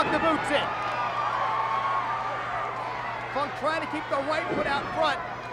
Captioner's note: applause